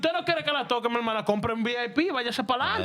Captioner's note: speaking In Spanish